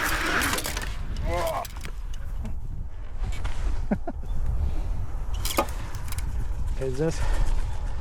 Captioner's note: laughter